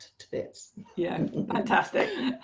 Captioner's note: both laughs